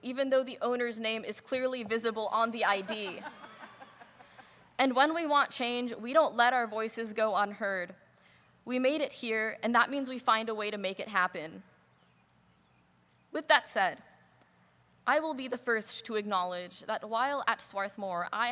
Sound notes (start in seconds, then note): 2.7 laughing